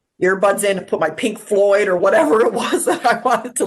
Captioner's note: laughs